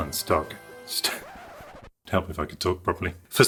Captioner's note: record Scratch